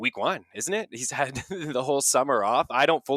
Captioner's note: laughs